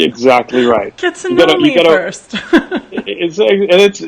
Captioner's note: laughs